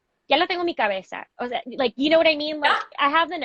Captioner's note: speaking spanish